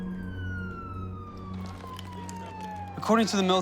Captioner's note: siren wailing